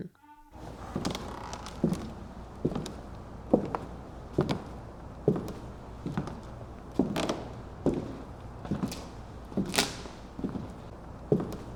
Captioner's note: footsteps